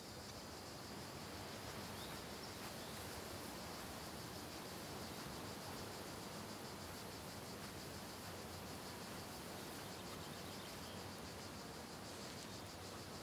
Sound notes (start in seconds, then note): 1.1 wind rustling grass; 10.2 birds chirping